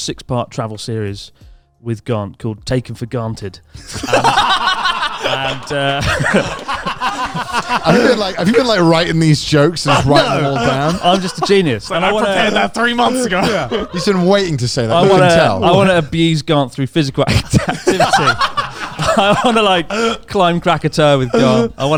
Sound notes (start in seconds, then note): 4.6 all laughing; 5.9 chuckling; 6.8 hands clapping; 17.2 laughing; 17.2 laughs